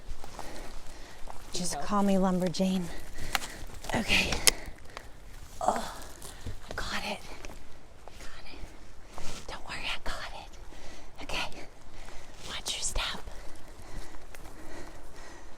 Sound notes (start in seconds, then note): 5.8 whispers: Don't worry, I got it. Okay